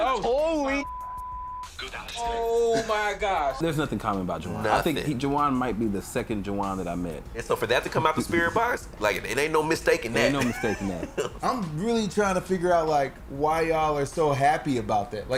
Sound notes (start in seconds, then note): 10.2 laughter